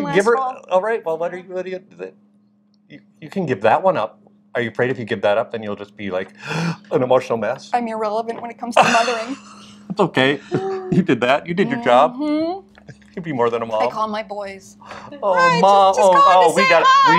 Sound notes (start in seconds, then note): 8.7 laughs; 12.3 hums